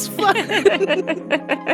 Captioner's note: laughter